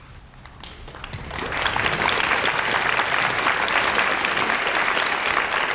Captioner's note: audience applauds